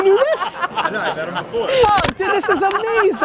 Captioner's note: laughs